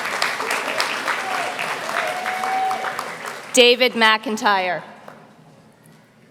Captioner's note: applause